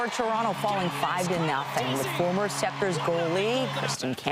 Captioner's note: applause